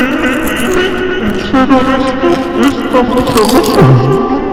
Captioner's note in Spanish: Continua Masticando; Masticando